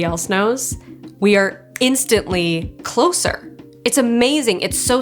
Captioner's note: snaps fingers